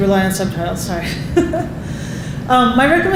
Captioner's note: laughing